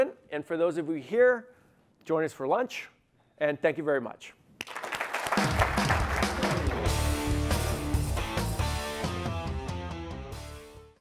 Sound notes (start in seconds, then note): 4.6 audience applauding; 7.0 upbeat music